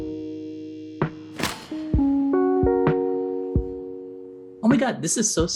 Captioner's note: clicking sound effect